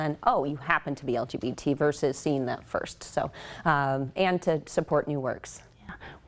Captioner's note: none